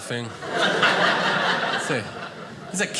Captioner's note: audience laughing